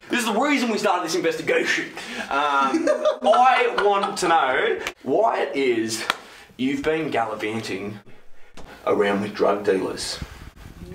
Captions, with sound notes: There's a reason why we started this investigation. (Wes laughs) I want to know why it is you've been gallivanting around with drug dealers.